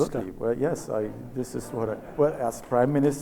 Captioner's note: audience laughs